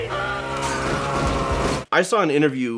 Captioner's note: screams over chainsaw sounds